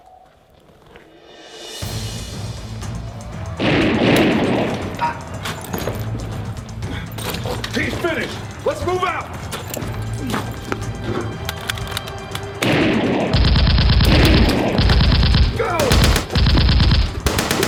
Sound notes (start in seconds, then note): 1.8 fast-paced tense music; 3.7 gunshots bang; 5.1 Wyoming grunts; 12.9 gunfire rattling